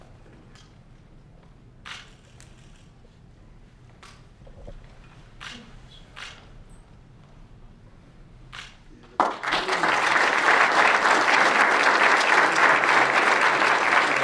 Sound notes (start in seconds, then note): 9.0 applause